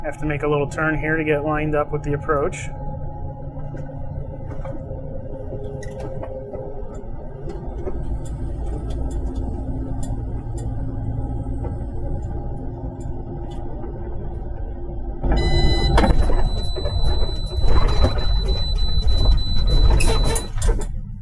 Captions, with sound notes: Have to make a little turn here to get lined up with the approach. (high pitch beeping)